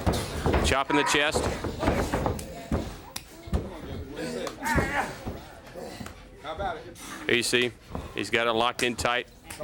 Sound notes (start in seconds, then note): 2.7 crowd chatter